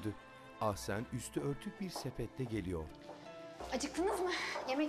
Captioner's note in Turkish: Ayak sesi